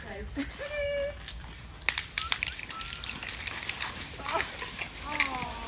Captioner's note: calls out